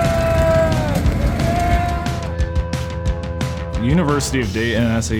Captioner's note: people shouting